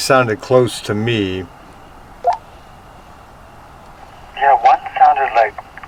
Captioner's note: radio beeping